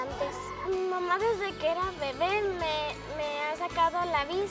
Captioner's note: speaking spanish